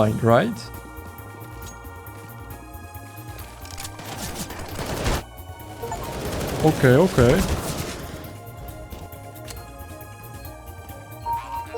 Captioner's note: whispers